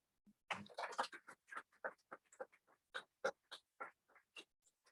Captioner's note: audience clapping